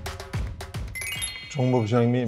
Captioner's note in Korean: 반짝이는 효과음